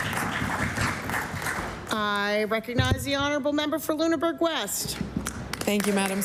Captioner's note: applause